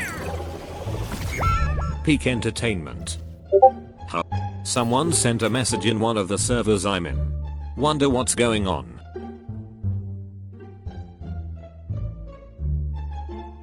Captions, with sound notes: *falling off the map sounds even though she literally has a fucking jetpack* Peak entertainment. *discord ping* Huh? Someone sent a message in one of the servers I'm in. Wonder what's going on.